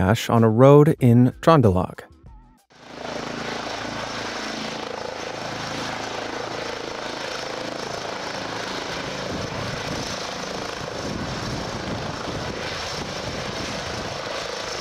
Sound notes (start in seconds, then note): 3.1 helicopter engine revving